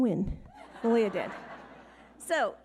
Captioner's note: audience laughing